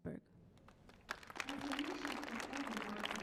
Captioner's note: audience applauds